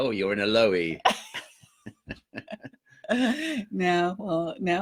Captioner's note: both laughing